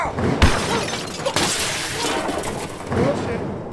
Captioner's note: sound of crashing, breaking glass